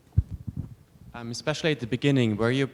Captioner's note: voiceover